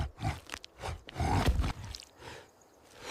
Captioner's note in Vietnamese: khịt mũi